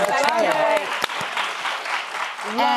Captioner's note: applause